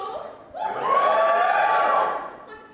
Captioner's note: audience cheers